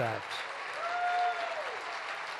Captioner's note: applause